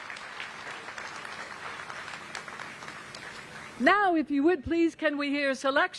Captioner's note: applause